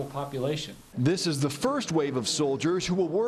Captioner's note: voiceover